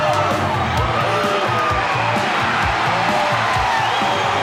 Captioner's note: audience shouting